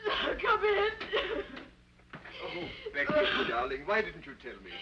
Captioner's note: Becky sobbing; sobbing